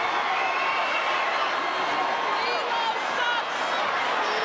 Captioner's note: audience cheers